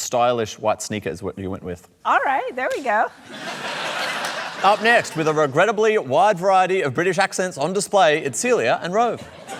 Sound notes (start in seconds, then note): 3.2 laughter